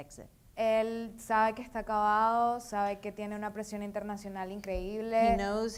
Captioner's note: speaking in foreign language